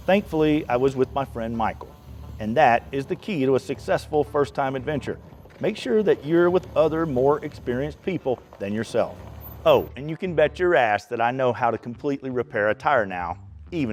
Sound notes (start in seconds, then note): 10.9 beep